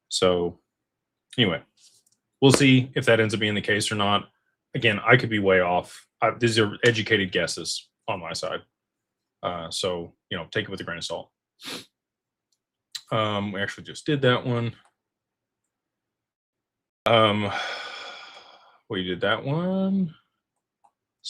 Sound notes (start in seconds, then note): 12.7 snorts; 17.4 sighs